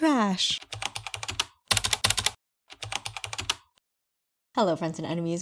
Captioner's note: typing